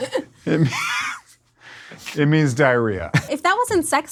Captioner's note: laugh; laughs